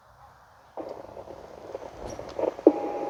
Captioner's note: slight grumbling